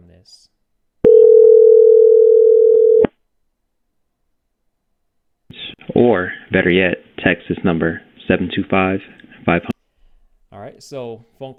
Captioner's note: ringing audio from phone